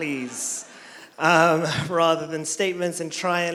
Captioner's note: some audience laughter